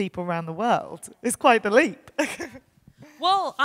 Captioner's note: chuckles